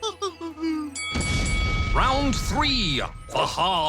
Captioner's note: bell dings